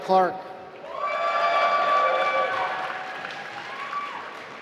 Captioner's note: applause